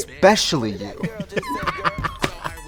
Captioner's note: Katya laughs; upbeat music